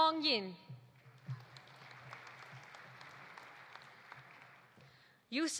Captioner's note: audience applauding